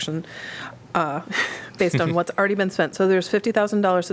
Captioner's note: laughter